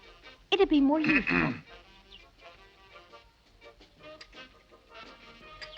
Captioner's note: Paul clears throat